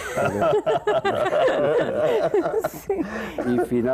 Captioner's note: Risas